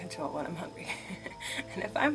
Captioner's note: laughs